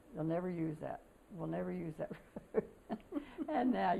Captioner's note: laughter